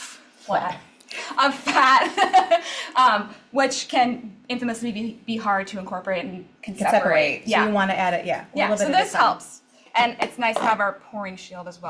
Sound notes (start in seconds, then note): 2.3 laughs